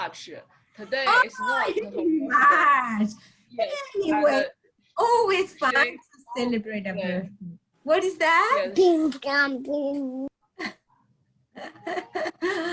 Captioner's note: laughing